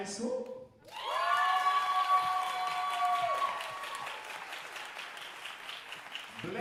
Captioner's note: audience cheering and applauding